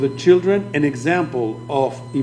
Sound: speaking foreign language

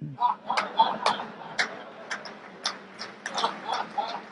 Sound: group laughs

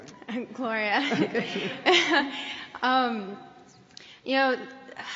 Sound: laughter

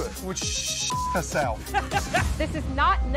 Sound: laughs

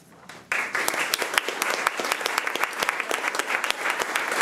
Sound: crowd clapping

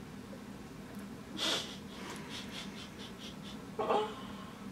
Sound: laughs

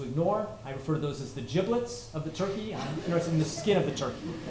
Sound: laughter

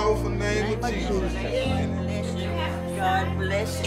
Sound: chattering

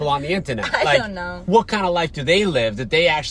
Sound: laughs

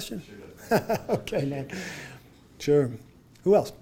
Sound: laughs

